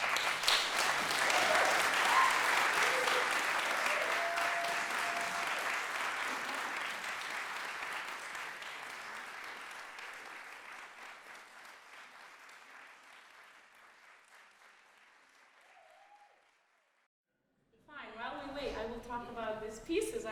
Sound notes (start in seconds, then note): 0.1 applause, cheering; 7.1 applause